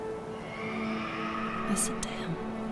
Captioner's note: dragon roaring distantly